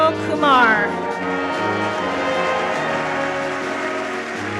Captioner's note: audience applauds; bright marching band music